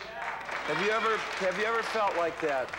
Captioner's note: applause